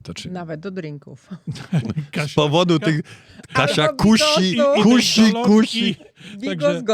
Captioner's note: śmiech